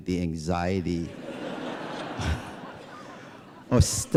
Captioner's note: laughter